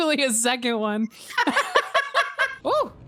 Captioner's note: both laugh